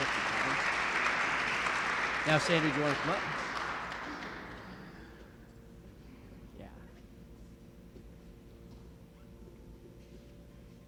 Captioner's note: applause